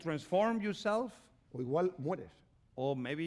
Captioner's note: speaking spanish